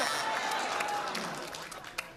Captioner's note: wrong buzzer; clapping